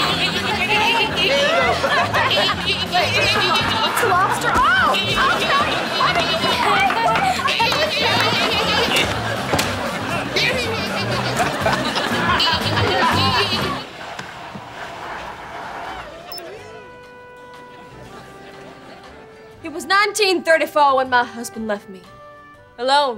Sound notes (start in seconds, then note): 0.1 chittering, laughing; 5.4 chittering, laughing; 9.9 chittering; 11.2 laughing, chittering; 15.8 beeping